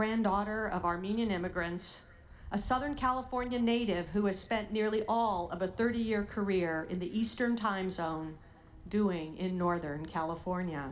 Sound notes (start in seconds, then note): none